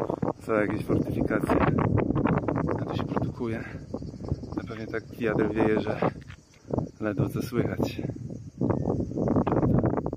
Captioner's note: wind noise